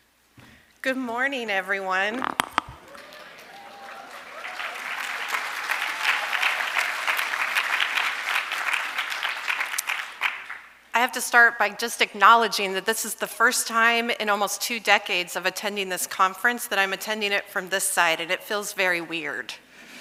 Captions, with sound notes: Good morning everyone. (audience applauding) I have to start by just acknowledging that this is the first time in almost two decades of attending this conference that I'm attending it from this side, and it feels very weird.